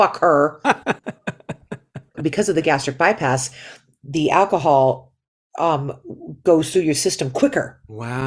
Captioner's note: laughter